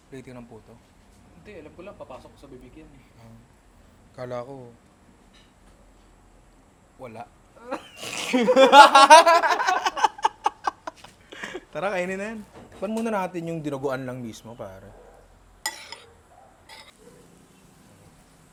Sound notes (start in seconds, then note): 7.6 laughter